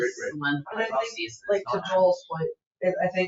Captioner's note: people chattering